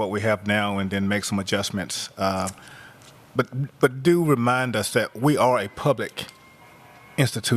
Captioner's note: sound of sirens in background